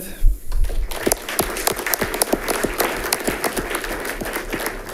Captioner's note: audience clapping